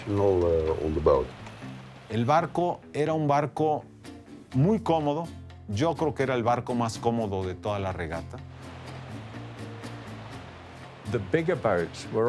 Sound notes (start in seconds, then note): 0.2 in Spanish; 6.6 waves lapping; 9.2 in English